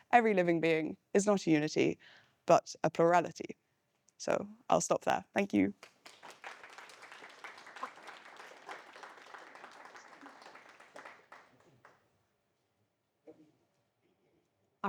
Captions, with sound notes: "Every living being is not a unity, but a plurality." So I'll stop there, thank you. (audience applauding)